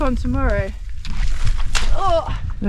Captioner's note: squelch